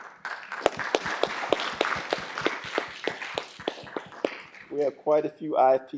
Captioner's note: applause